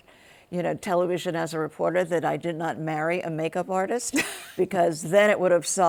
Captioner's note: laughs